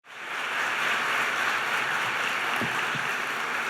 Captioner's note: applause